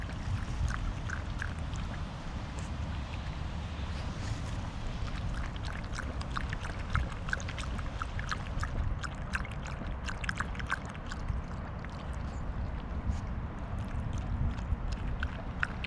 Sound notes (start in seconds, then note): 4.6 guzzle guzzle guzzle